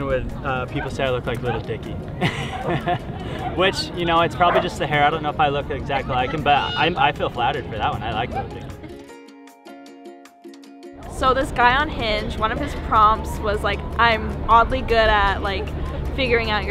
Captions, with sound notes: with people say I look like Lil Dicky. (person laughing) Which you know, it's probably just the hair. I don't know if I look exactly like him, but I feel flattered for that one. I like Lil Dicky. - So this guy on Hinge, one of his prompts was like I am oddly good at like figuring out